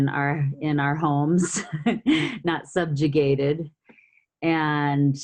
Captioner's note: laughs